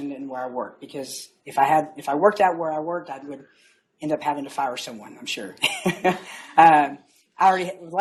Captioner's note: laughs